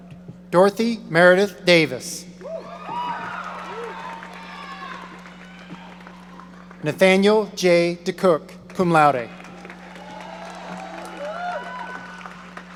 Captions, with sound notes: Dorothy Meredith Davis. (audience cheering) Nathaniel J. DeCook, cum laude. (audience cheering)